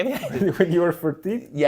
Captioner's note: laughs